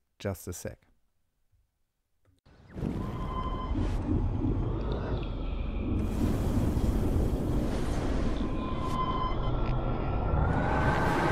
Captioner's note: reverse playing of audio snippet